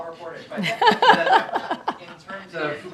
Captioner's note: laughter